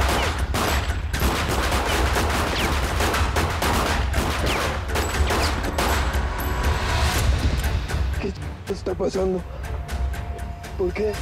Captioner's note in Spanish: Disparos